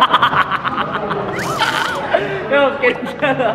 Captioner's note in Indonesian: Babi tertawa